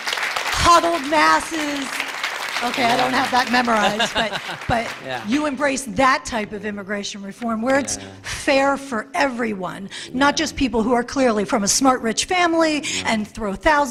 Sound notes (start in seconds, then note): 2.9 laughter